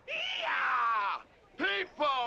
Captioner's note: shouting